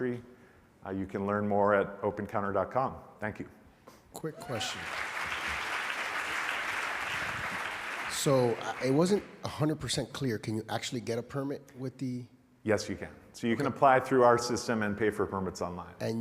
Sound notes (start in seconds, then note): 4.4 audience applauds